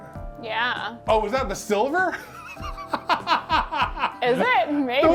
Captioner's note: laughs